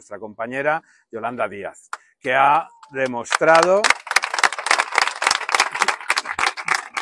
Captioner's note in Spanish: aplausos